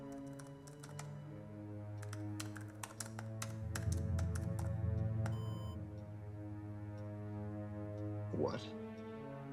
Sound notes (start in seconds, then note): 3.7 clap; 5.8 bowed string instrument